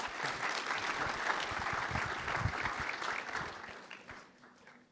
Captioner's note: applause